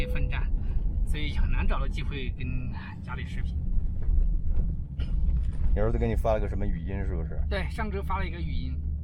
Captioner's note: speaking Chinese